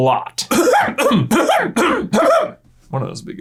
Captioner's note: dramatically clears throat several times